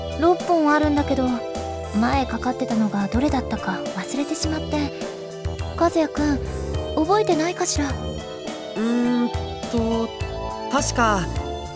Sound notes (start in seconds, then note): none